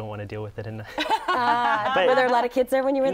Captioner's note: laughs